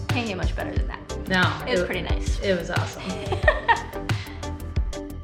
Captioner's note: laughs